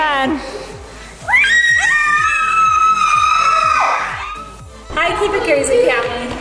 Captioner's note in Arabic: صراخ سكارليت وبرودي